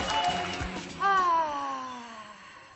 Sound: toula sighs

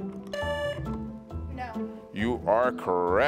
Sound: buzzer beeps

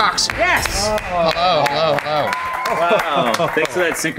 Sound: clapping

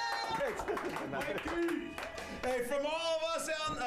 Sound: applause

